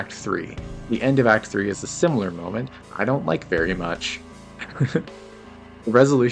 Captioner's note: laughs cutely